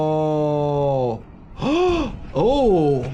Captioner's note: gasps